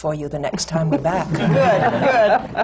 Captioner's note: laughter